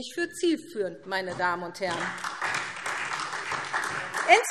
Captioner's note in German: Beifall SPD